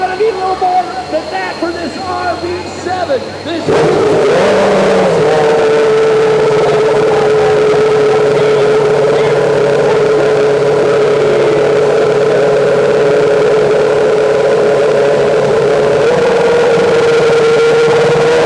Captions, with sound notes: Gonna need a little more cheering for this RB7 [F1 engine firing and revving]